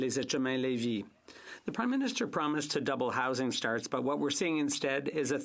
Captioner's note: speaking French